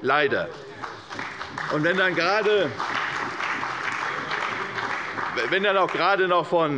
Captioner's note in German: Beifall bei der CDU und dem BÜNDNIS 90/DIE GRÜNEN